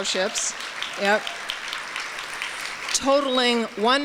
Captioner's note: applause